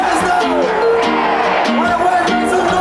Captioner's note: crowd